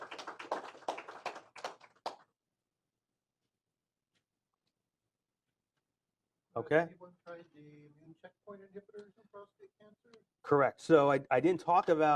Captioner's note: applause